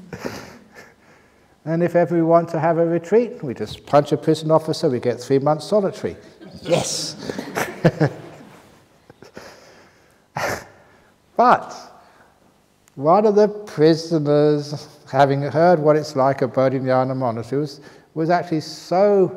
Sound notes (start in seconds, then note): 0.0 laughter; 10.4 laughter